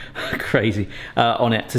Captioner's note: scoffs